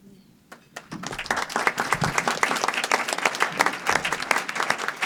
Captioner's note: audience applause